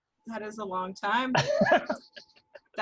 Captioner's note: laughs